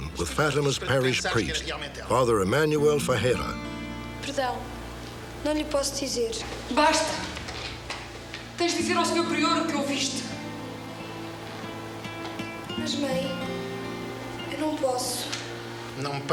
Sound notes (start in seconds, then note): 3.4 speaking portuguese; 6.8 speaking portuguese